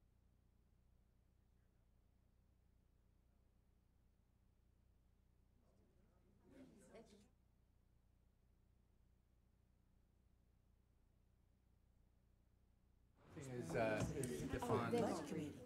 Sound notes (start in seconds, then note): 6.4 people chattering